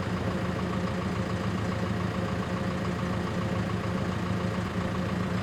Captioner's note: engine idling continues